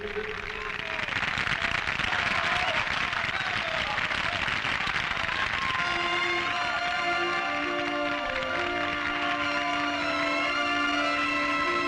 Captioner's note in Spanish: Aplausos